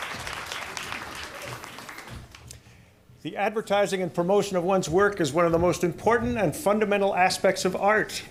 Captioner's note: applause